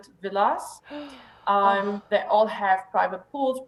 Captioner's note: gasps